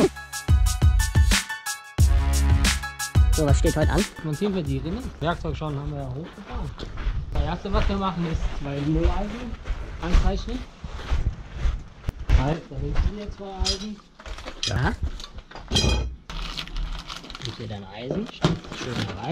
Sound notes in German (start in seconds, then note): 15.6 klappern